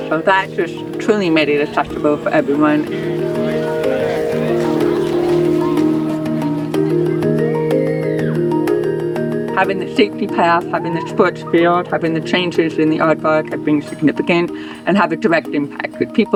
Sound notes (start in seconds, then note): 3.0 happy chatter; 7.4 distant playful screams